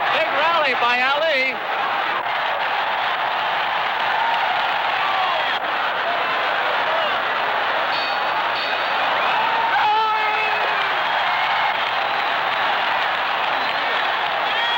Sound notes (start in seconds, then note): 2.1 crowd cheering; 8.5 bell dinging; 12.0 crowd cheering continues